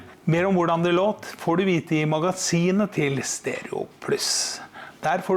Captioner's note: in norwegian